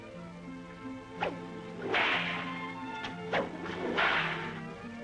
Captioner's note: cracking whip